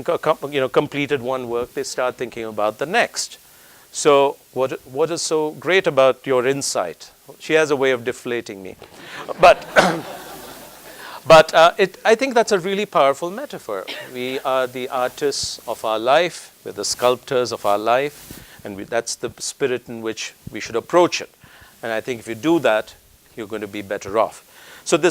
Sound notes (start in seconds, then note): 8.8 laugh